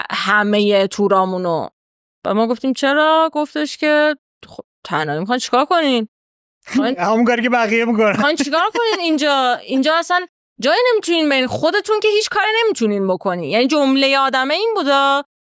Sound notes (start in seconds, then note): 6.7 laughs